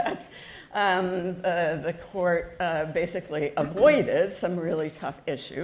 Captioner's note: chuckle